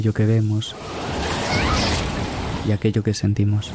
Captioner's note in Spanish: ráfaga de viento